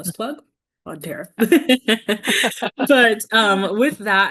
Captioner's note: both laughing